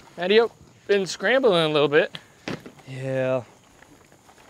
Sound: none

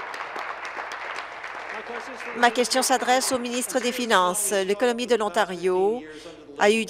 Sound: applause

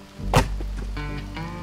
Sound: chop

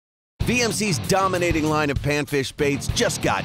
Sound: voiceover

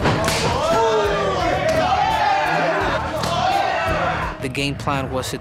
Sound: crowd cheering

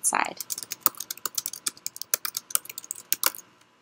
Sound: sound of keys typing

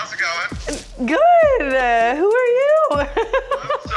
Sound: laughing

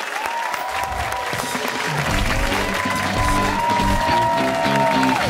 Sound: cheers and applause

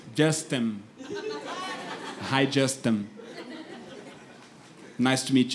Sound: speaks broken English

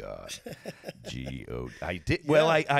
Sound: laughing

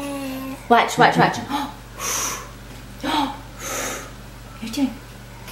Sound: blowing

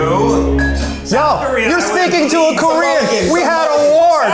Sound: all clamoring

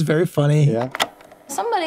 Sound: tape rolling

